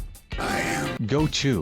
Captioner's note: Thanos voice